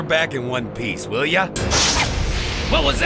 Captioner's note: crashing